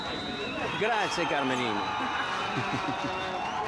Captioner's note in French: en italien: Grazie; rire les dames